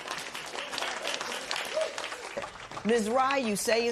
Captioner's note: cheers and applause